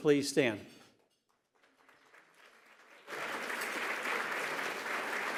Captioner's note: applause